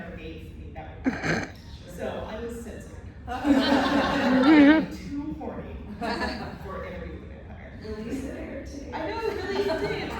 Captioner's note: laughter; laughter